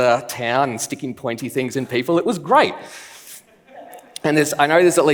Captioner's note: laughs